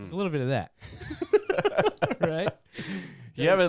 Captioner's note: laughing